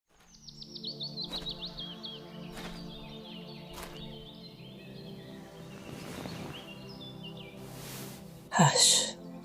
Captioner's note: birds chirping throughout; footsteps approach, someone sits